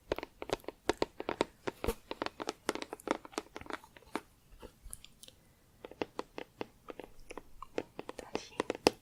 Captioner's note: tapping on plastic